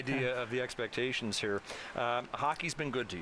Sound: laughter

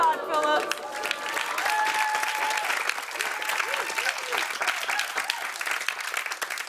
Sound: cheers and applause

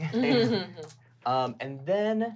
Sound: laughing

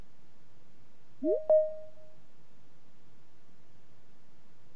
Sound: digital chime

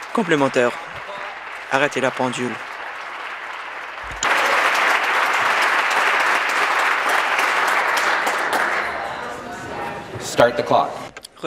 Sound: applause

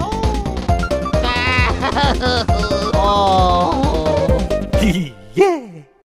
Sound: crying

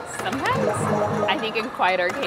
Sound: button clicking; timer ticking; balls beeping

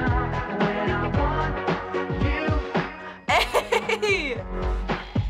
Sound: laughs

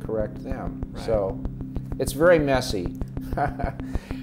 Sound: laughs

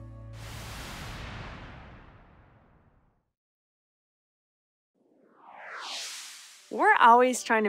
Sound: whoosh sfx

